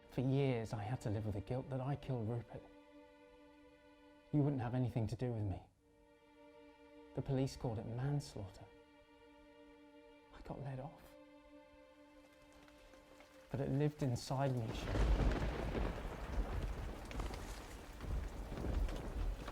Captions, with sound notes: For years I had to live with the guilt that I killed Rupert. You wouldn't have anything to do with me. The police called it manslaughter. I got let off, but it lived inside me. (thunder rumbling)